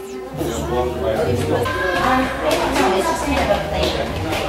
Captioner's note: background chatter